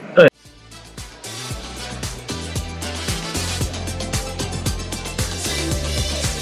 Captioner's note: # upbeat music #; background chatter